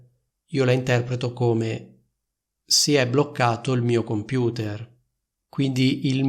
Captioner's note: in Italian: "Si è bloccato il mio computer"